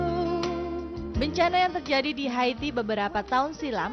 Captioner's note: non-english speech